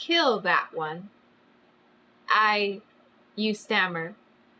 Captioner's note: none